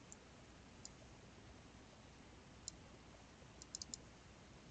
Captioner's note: mouse clicking